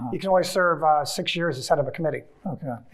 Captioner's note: none